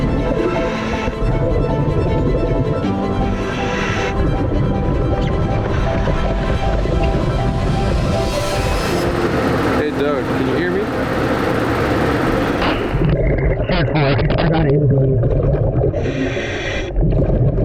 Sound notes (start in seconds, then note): 0.3 heavy breathing; 1.8 water gurgling; 16.9 water gurgling